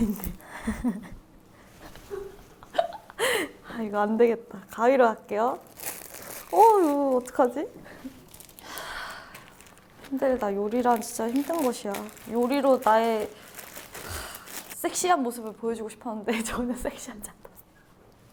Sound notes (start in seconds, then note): 8.6 A deep sigh; 14.0 sigh